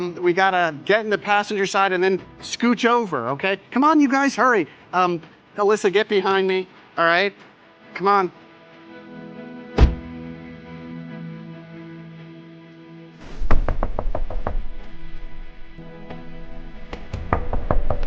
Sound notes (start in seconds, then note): 8.4 jaunty music continues; 13.3 Elvis knocking